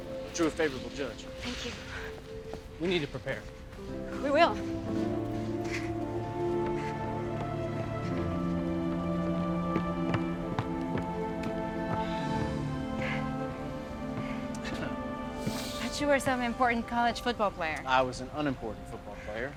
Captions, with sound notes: -to a favorable judge. -Thank you. -We need to prepare. -We will. [Tommy laughs out of breath] Thought you were some important college football player. I was an unimportant football player.